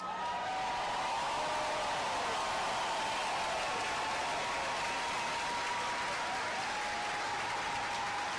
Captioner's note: cheers and applause